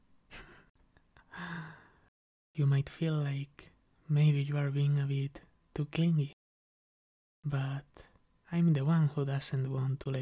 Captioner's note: chuckles